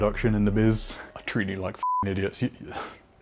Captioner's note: beep